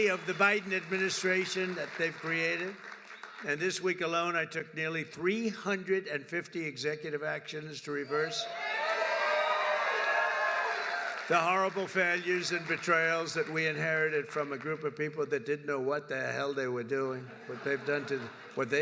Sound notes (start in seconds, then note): 9.2 applause; 17.2 laughter